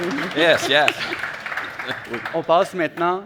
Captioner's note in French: applaudissements